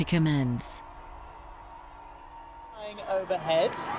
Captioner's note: crowds cheering and applauding